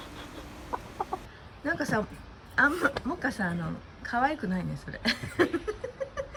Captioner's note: laughs